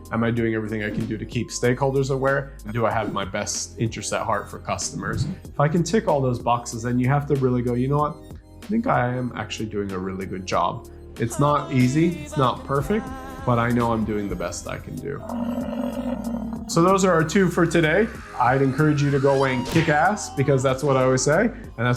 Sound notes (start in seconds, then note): 15.1 buffalo growling